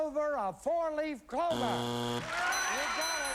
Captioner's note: buzzer